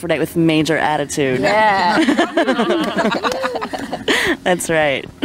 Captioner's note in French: rires